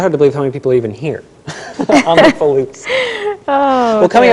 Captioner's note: laughter